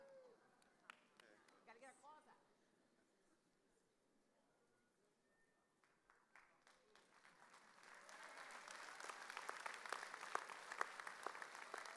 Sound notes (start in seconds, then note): 6.3 audience applauding